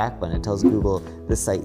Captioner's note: graphics whooshing